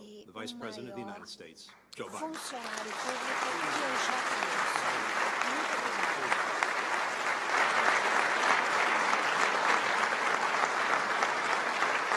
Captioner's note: applause